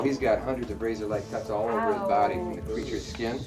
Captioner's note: hisses